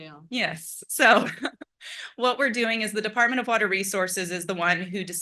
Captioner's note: laugh